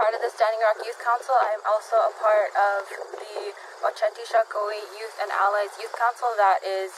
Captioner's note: speaks in Sioux